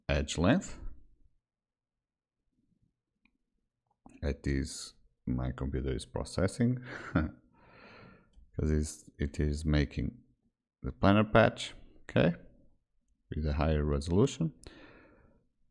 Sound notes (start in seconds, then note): 6.8 chuckles